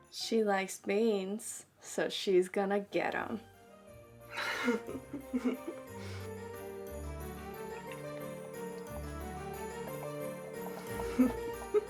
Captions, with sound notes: - She likes beans, so she's gonna get 'em. (Bailey laughs) (mischievous Christmas-themed music)